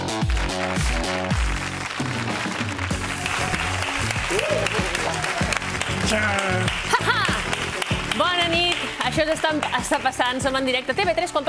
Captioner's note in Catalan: aplaudiments